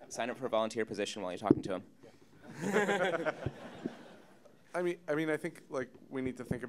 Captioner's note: audience Laughter